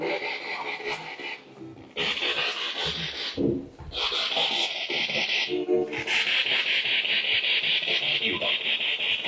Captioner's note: radio noise from the spirit box